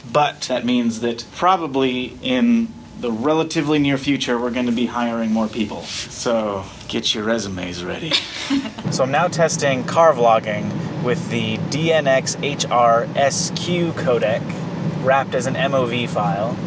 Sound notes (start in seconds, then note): 8.0 laughs